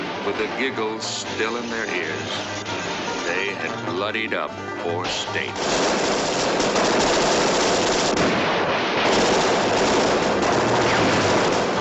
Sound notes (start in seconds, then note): 4.9 multiple guns firing